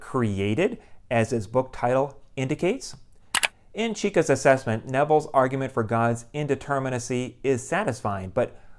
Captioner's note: mouse click